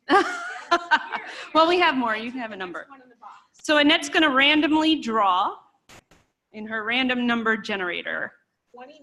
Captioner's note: laughter